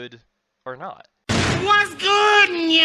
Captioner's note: door kicks open